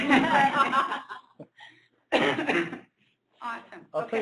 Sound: laughter

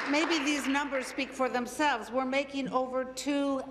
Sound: applause

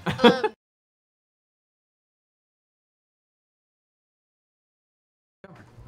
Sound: audio silence

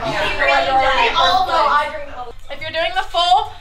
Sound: group chatting

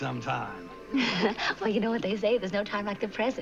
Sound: laughs

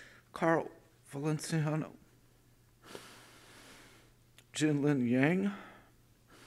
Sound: heavy breathing

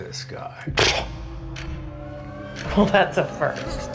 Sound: scoffs

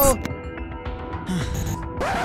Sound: gasps

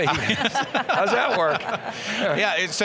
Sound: laughing

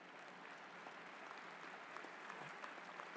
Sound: applause

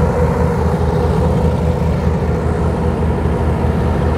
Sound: boats roaring

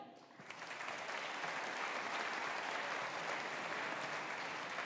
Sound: audience applauding

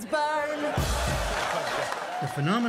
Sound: laughter

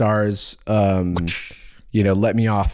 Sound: whip-crack

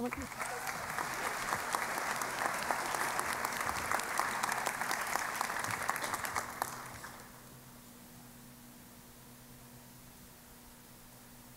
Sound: applause

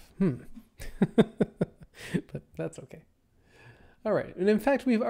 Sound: laughs

